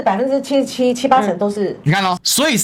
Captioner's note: Taiwanese